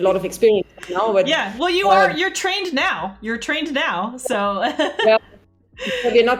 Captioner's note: laughs